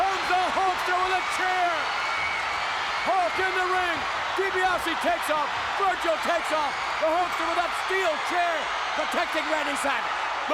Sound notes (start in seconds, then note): 3.5 audience cheering